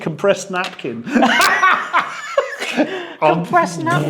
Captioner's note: both laugh loudly